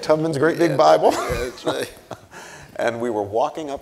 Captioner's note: chuckles